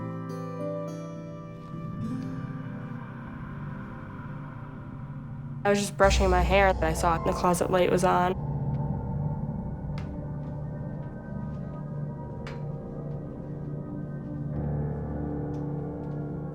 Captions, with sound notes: (ghostly sighing) I was just brushing my hair and I saw that the closet light was on. (suspenseful music)